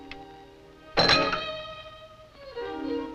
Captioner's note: glass drops